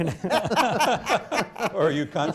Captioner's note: laughter